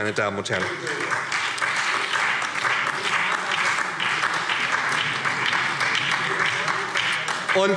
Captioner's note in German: Beifall SPD und DIE LINKE